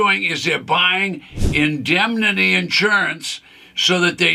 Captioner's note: screen whooshes